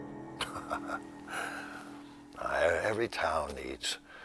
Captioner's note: Bill chuckles